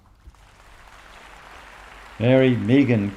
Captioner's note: applause